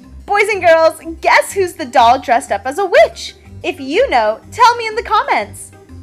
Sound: none

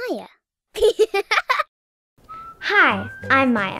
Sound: laughing

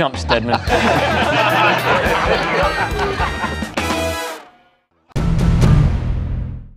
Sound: laughter

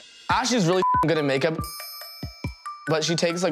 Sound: beeps

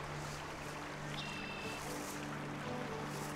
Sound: birds chirping

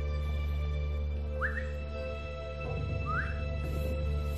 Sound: whistling

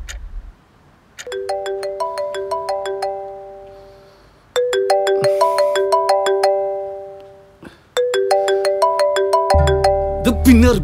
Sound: clock Ticks; phone ringing

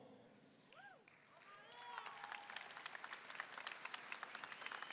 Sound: audience applauding

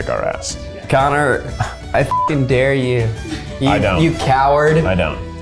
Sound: beep

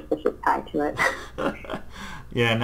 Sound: laughs

